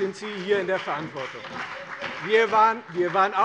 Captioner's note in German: Beifall bei : Ihr wart mit an der Regierung!